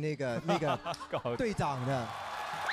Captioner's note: laughing